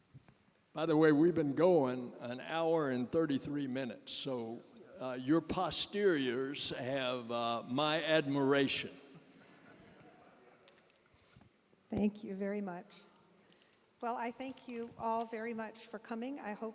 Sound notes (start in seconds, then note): 9.2 laughter